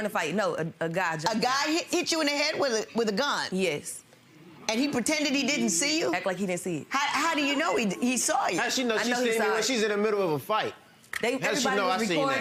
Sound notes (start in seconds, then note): 5.2 audience muttering